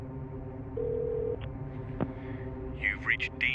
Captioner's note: line trilling